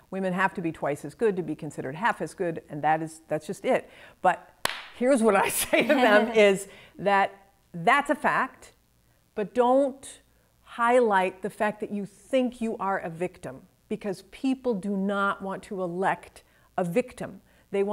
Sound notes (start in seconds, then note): 4.6 claps hands; 5.6 chuckles